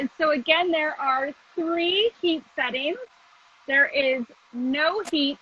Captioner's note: none